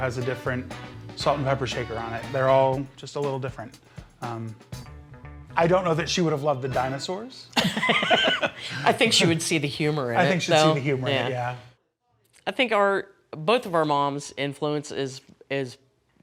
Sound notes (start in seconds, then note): 7.5 laughter